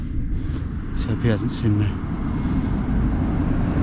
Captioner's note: tractor rumbling